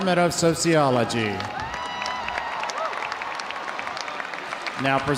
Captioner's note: audience cheering; audience applauding